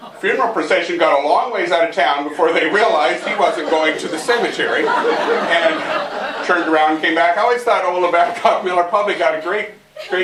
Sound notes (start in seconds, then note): 6.6 laughter